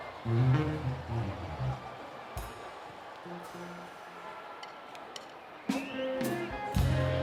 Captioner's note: applause